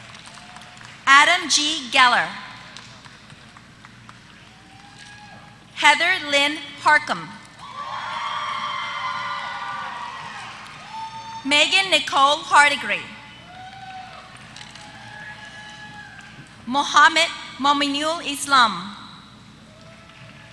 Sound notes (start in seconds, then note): 7.7 applause